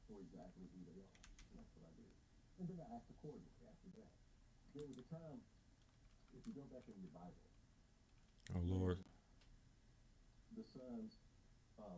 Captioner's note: blank Audio